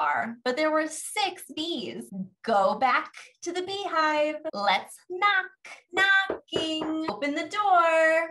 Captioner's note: knock, Knock